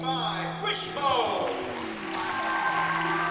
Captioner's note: cheering